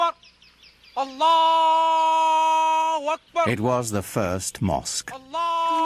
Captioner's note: man shouting